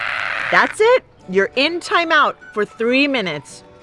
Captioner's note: screams, stomps feet, cries